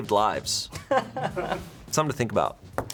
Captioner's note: crew members laughing